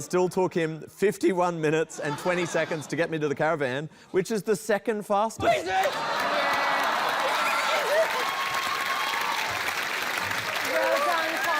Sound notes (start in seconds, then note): 5.4 all exclaim; 5.4 yells; 8.6 cheering, applause